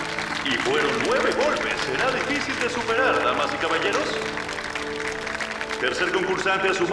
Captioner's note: audience cheers